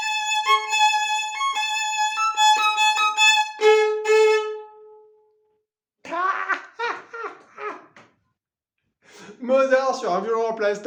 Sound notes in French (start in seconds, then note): 6.0 rires